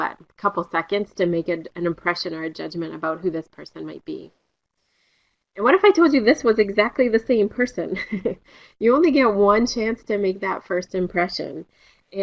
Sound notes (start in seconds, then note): 7.9 laughter